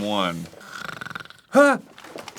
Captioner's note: fake snoring